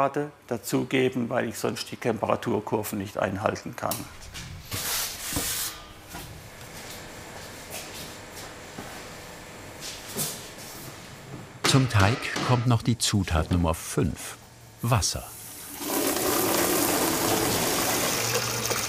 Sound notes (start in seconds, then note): 16.1 hard splashing